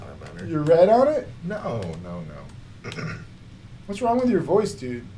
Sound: clears throat

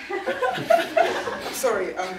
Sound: audience laughing

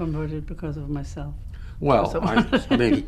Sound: laughs

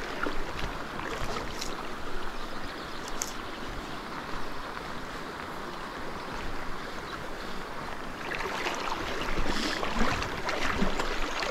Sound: water splashing

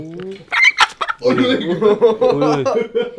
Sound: chicken clucking violently

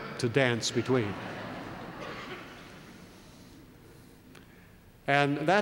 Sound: laugh

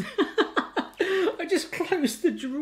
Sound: laughs

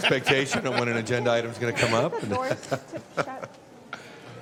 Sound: laughter

